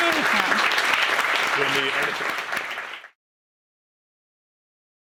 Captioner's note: applause